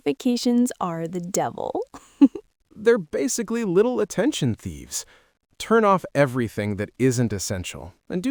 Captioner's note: laughs